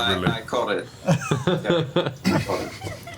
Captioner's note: laughter